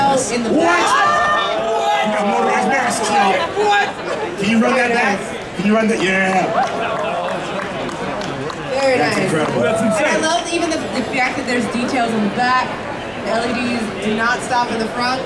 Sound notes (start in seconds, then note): 3.1 audience cheering drowns out speaker; 6.1 audience clapping